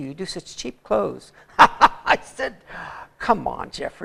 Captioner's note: laughter